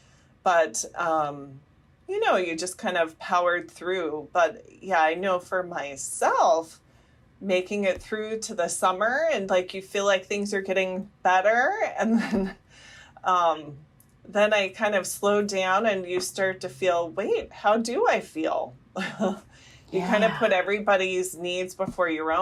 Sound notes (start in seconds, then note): 12.1 laughter; 19.0 laughter